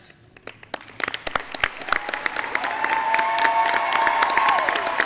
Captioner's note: audience clapping